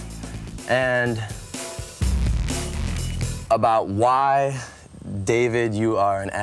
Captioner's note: beep